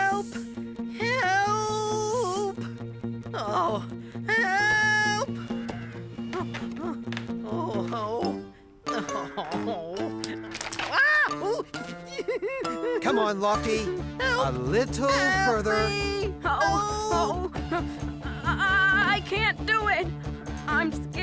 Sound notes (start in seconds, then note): 10.8 creak!; 10.9 Spud Crying